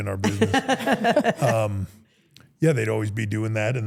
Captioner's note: everyone laughs